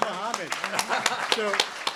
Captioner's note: applause; laughs